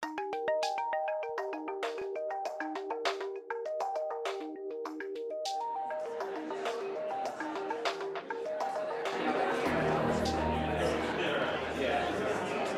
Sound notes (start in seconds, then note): 0.2 cheerful techno music; 9.3 crowd chattering